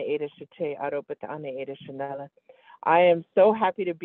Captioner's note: foreign language 00:03:21